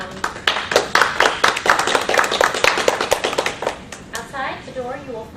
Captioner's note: applause